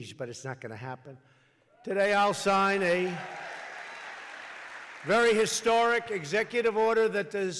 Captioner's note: applause